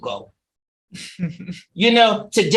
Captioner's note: chuckling